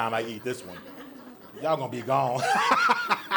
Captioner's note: audience laughs